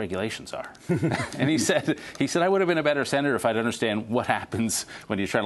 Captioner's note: laughter